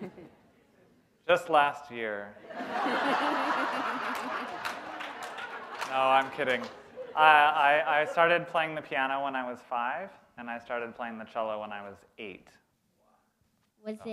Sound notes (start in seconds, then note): 2.4 laughter